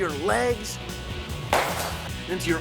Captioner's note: crack!